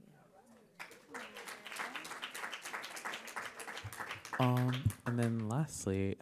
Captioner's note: audience applauding